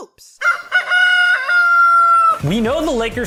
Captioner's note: rooster call